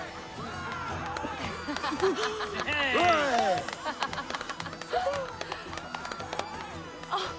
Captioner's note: laughter and applause